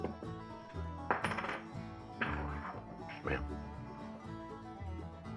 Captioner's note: coin clatters